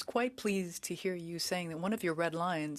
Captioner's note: speaking French